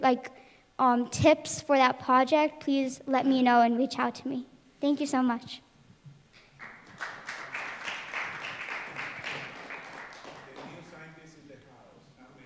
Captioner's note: applause